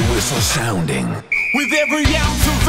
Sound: whistle blows

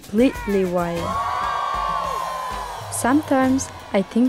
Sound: cheering

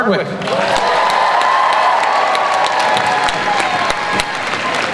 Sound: crowd cheers and applauds

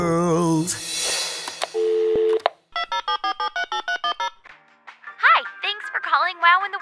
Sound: singing; soundbite of dialing phone

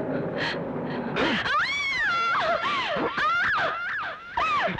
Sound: groans

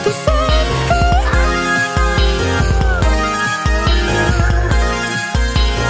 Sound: awooo~

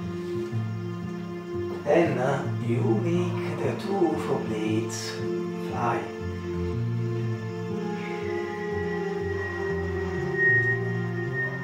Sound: whistle

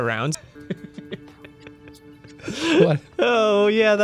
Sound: laughing

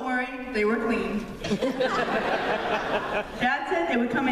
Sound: laughter

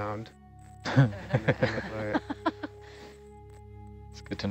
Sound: all laughing

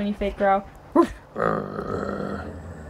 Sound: fake growling

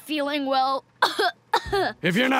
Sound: coughs

